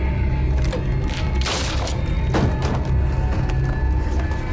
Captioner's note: muffled 1920's music; soft intense music; wood cracking loudly; muffled 1920's music; soft intense music